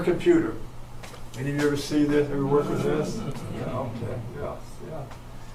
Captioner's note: audience chuckles